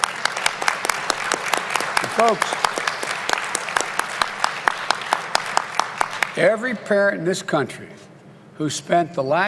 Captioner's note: applause